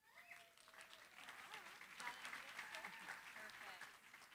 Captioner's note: applause